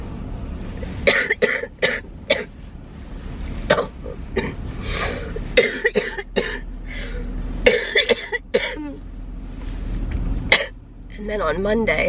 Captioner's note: coughing